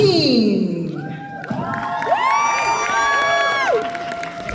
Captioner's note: audience applause